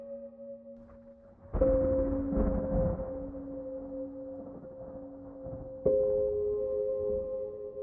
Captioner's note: emotional music; thunder rumbles